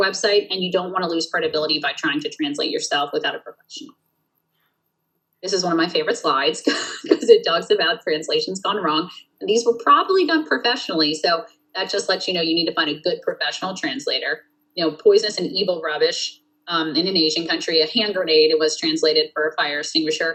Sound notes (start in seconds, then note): 6.5 laughs